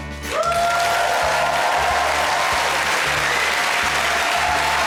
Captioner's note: audience cheering